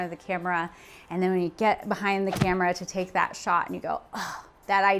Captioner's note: sighs in relief